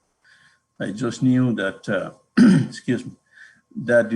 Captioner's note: clears throat